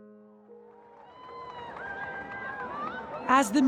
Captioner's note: crowd cheering